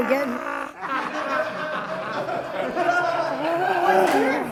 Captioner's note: laughing